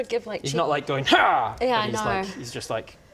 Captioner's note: hrrgh